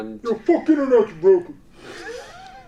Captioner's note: imitates voice; laughs loudly